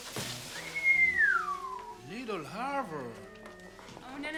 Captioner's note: whistles